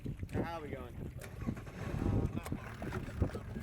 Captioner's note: wind